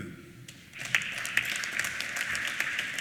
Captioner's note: applause